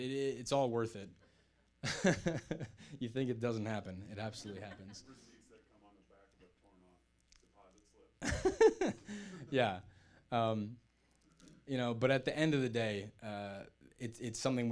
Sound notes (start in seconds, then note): 1.6 laughs; 5.3 muttering; 8.2 laughs